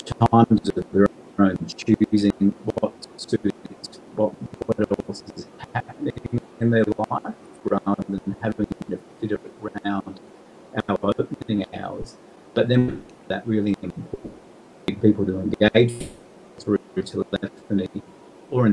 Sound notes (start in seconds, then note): 2.8 audio distorting; 12.5 audio distorting; 16.7 audio distorting